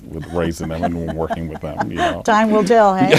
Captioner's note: laughing